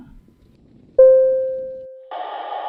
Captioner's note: bell Dings